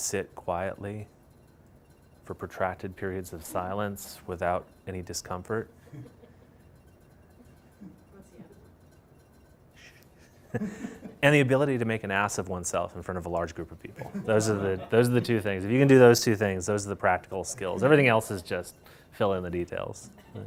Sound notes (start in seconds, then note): 14.0 laughter